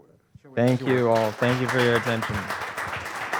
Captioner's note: audience applauding